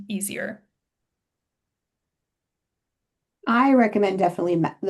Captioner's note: silence